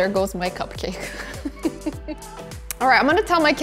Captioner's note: laughing